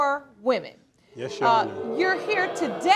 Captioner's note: crowd booing